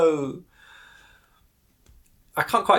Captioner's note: breath inhaled